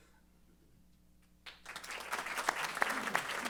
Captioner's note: applause